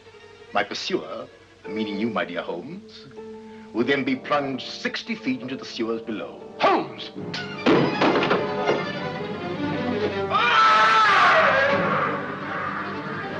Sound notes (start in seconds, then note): 7.0 dramatic music; 7.3 gun clatters on ground; 8.7 dramatic music; 10.2 Moriarity screams